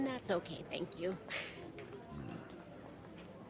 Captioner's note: Calla chuckles